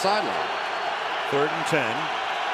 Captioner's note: cheering